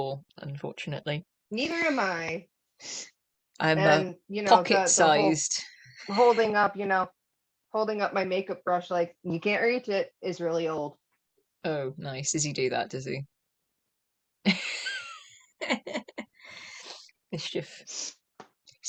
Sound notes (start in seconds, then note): 14.4 laughter